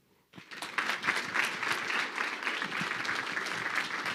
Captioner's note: crowd clapping